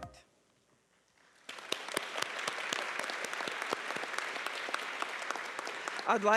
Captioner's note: applause